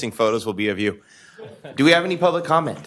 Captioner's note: laughter